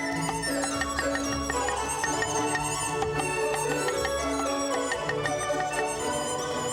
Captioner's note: joyful music; chopping